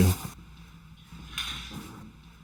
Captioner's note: spray paint shakes